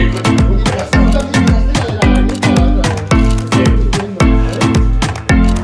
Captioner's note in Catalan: castellà